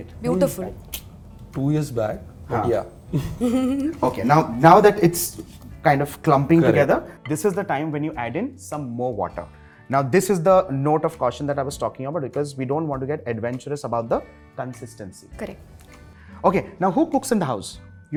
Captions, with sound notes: Beautiful Two years back but yea - Yea.. [Giggles] okay now that it's kind of clumping together this is the time when you add in some more water. Now this is the note of caution that I was taking about because we don't want to get adventurous about the consistency. Correct. Ok, now who cooks in the house?